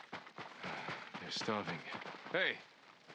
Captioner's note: sigh